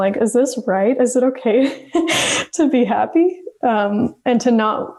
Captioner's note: laughs